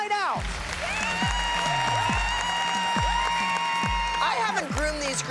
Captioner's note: cheering and applause